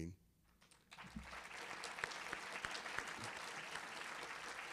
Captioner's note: audience applauding